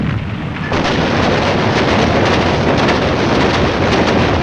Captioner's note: guns blasting